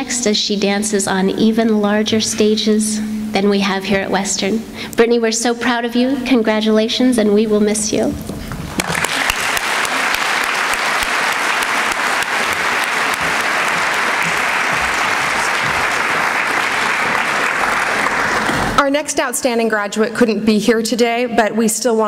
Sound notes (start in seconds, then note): 8.7 applause